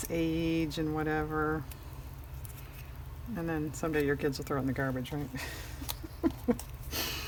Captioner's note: laughs